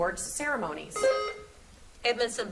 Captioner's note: buzzer beeps